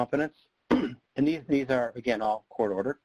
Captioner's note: clears throat